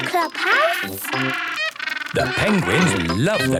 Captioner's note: honking